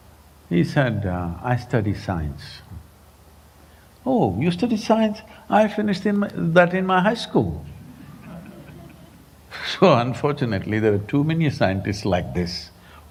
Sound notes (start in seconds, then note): 7.4 laughs; 7.6 laughter